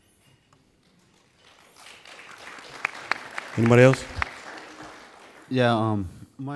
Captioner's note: applauding